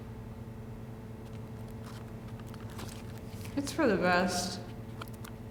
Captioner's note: none